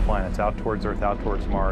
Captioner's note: loud blast